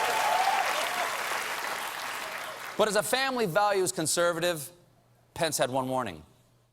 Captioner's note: applause